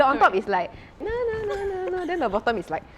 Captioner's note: dance song humming